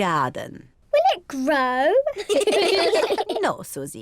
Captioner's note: all laugh